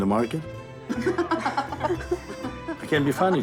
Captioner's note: laughing